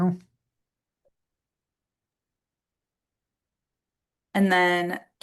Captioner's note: silence